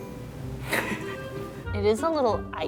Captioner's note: laughing